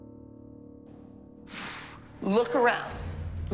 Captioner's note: exhales